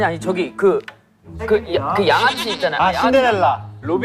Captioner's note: mispronunciation